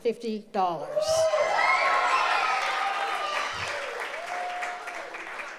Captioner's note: audience cheers